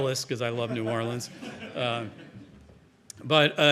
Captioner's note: audience chuckling